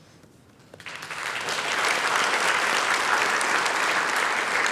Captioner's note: applause